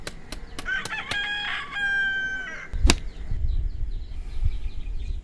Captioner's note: chicken squawking